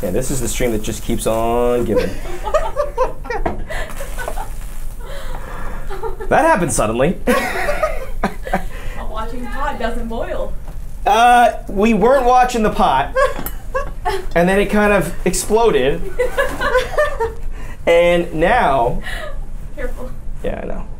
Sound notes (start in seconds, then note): 1.9 laughs; 7.3 laughs; 16.0 laughing